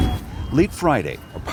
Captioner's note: sirens blaring